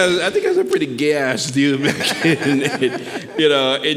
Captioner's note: laughs